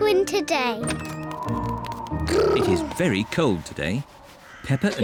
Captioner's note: wind whistles